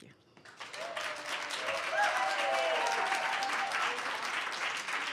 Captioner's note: audience cheers and applause